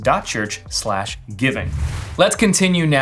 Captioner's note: soft whoosh